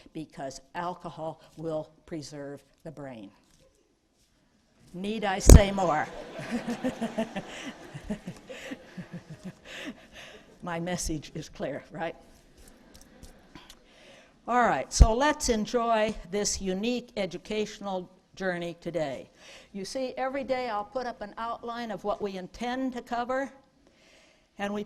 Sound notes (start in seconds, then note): 5.9 laughter